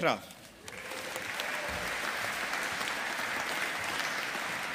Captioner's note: audience applauding